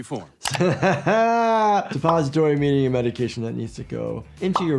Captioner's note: laughs